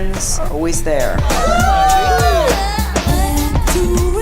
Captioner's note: cheering